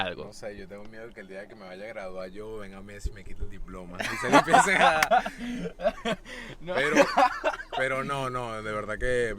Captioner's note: laughs